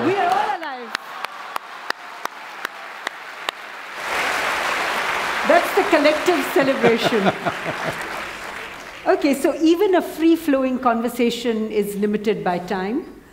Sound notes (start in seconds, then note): 0.0 laughter/Applause; 3.1 applause; 6.6 Sadhguru laughs